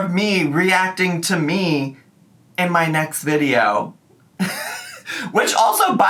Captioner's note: laughs